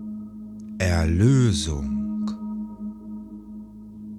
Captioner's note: german